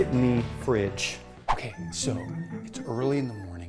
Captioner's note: rooster crows